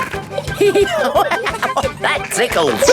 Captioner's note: laughing; giggling